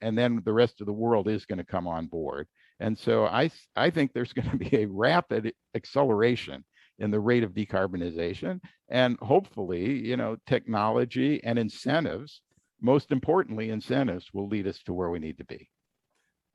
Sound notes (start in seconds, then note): 4.3 laughter